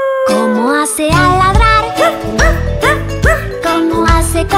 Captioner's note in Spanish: Aullido; Ladrido